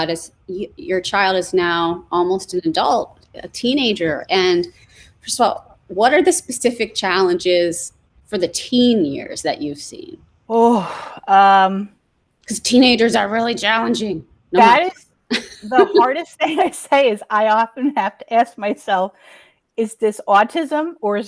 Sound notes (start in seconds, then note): 10.5 sighs